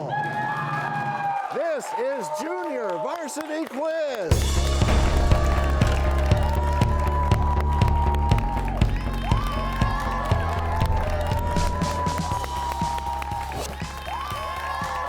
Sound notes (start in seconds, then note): 0.3 cheers and applause; 4.4 crashing sound; 10.3 cheers and applause